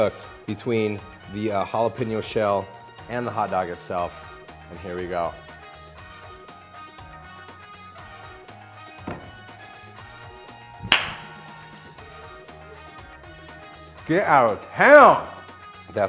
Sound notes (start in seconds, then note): 6.2 upbeat music; 10.8 loud clap